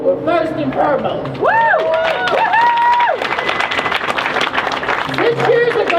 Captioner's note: crowd cheers